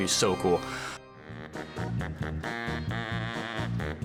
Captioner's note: scary laughing